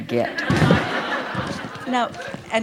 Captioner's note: laughter